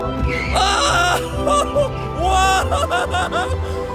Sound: man screaming

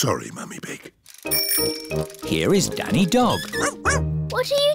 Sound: bell ringing

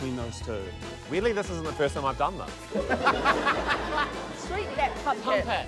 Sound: laughter

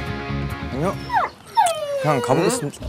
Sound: whimpers

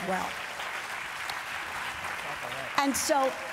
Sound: applause

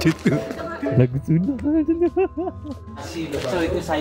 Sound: laugh

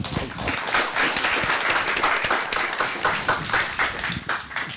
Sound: audience applauds

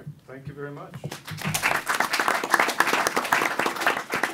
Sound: applause

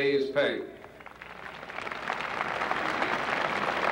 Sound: applause

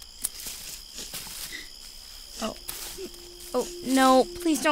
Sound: footsteps, leaves rustling; whimpering

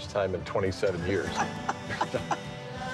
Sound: Marty laughs

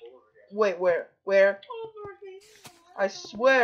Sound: in a gay voice

